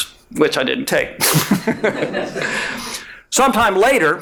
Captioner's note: all laughing